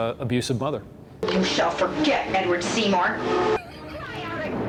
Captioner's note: laughs